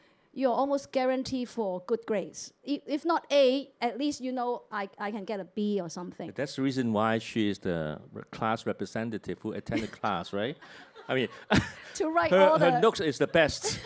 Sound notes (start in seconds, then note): 10.6 audience laughter